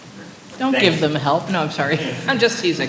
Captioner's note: laughter